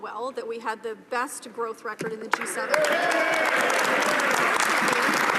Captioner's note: some Applause